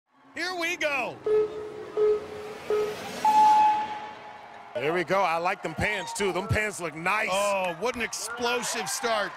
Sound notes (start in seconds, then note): 1.1 starting tones sound